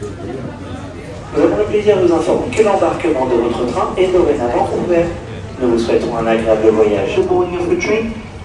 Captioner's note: french train announcement